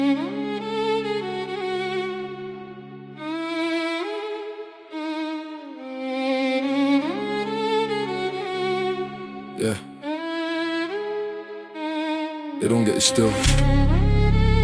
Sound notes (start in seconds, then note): 7.3 cold monotone, barely above whisper